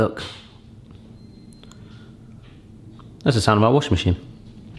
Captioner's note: beeping